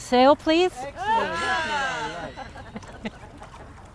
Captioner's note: crowd